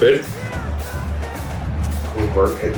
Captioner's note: crowd Noises